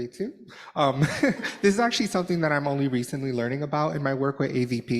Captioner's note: laughter